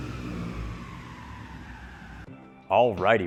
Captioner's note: car engine revving